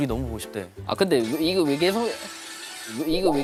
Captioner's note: ring-♬